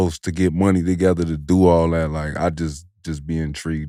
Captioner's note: none